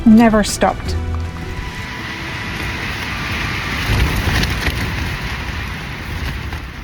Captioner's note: strong wind and tent rustling